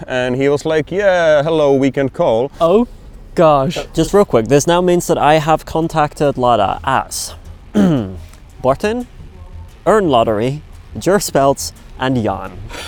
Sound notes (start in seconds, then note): 7.7 clears throat